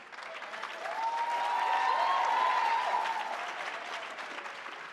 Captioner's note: audience applauds